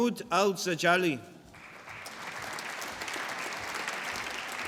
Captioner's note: applause